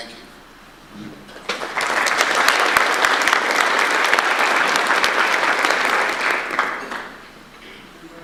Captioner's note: audience applause